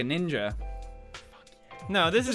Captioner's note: whispers